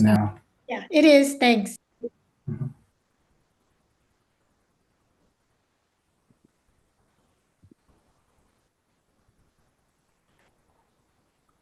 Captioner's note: pause